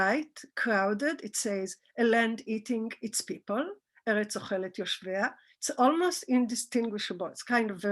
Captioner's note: Hebrew